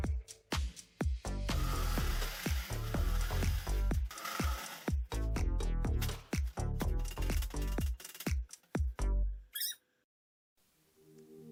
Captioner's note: clattering metal